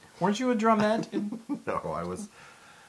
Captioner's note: laugh